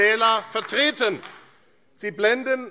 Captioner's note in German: Beifall AfD